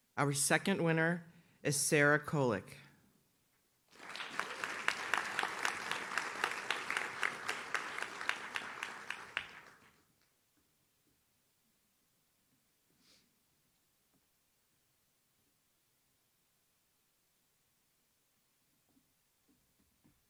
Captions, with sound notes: Our second winner is Sarah Kolick. (audience claps)